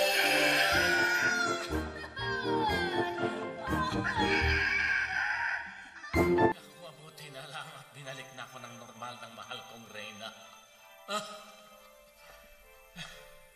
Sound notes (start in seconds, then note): 0.0 crying; 4.0 crowing